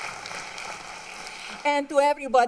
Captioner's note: applause